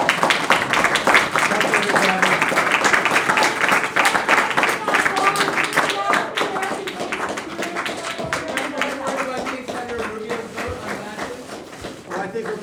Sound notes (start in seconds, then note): 0.0 applause